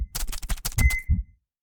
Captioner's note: beeping